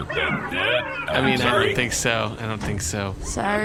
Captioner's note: door closes